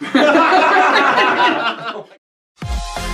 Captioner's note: laughter; theme Music